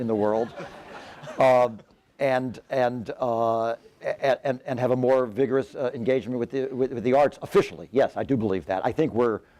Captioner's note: laughter